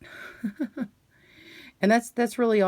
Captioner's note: chuckles